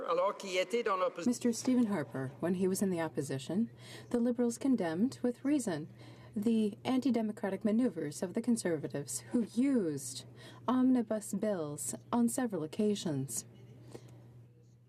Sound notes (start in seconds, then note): 3.4 speaking French